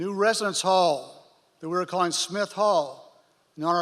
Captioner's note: none